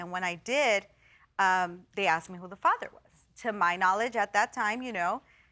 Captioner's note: none